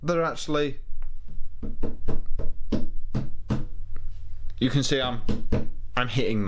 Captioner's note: Banging Dell Canvas